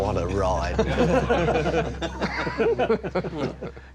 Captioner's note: all laughing